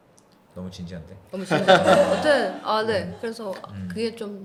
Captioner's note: ha ha